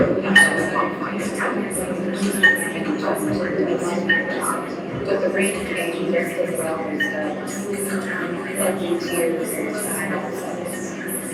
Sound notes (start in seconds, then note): none